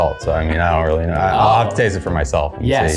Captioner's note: mumbling